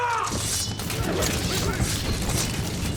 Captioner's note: sound of a sword being drawn; music builds tension